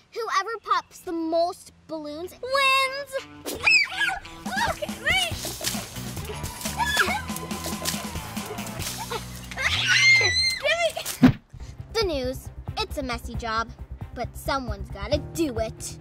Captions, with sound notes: Whoever pops the most balloons, wins! (screaming) (splashing) (screaming) - (screaming) gimme! The news, it's a messy job, but someone's gotta do it.